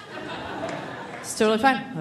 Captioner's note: audience laughing